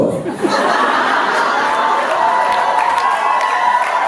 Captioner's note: audience laughs and cheers